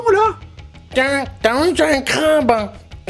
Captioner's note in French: Voix-Off